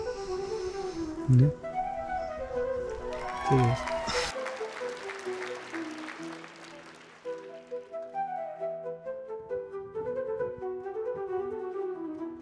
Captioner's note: applause